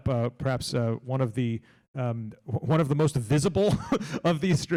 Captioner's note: laughs